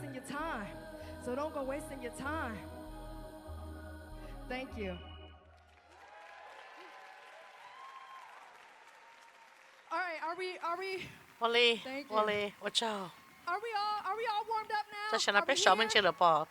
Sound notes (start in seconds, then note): 8.8 cheers and applause